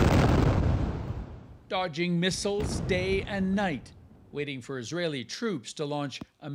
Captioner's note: bombing